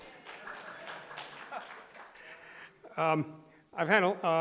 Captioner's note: crowd applauding